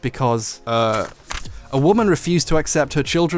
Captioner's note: pages flipping